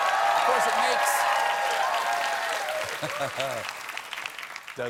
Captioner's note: cheers and applause